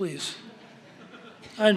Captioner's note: laughter